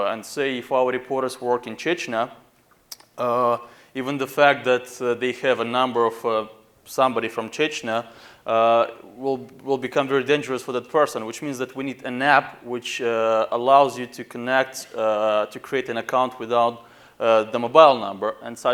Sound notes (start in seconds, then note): none